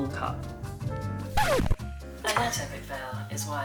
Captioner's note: needle scratches